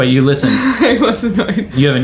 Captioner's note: laughs